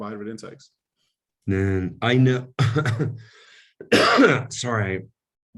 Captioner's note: coughs